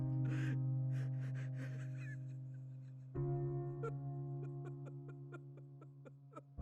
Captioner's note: ben whimpers